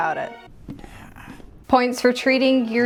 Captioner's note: groans